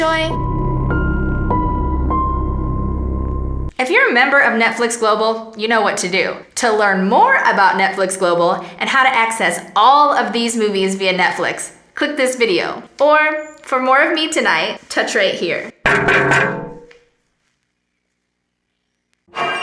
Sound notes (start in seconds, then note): 0.0 eerie music; 15.8 tapping on screen; 19.3 eerie music